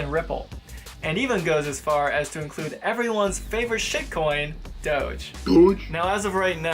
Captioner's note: comical Woof sound plays